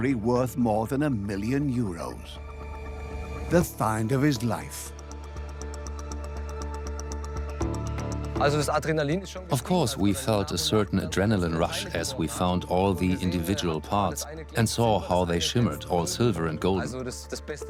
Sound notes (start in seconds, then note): 8.4 in German; 9.7 dubbed in English